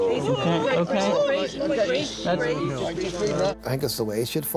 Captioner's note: cries out; rescuers chat together